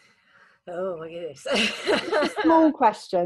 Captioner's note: laughs